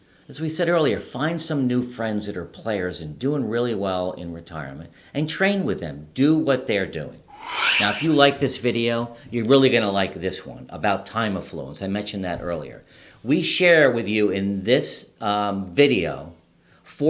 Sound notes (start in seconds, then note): 7.3 air whooshing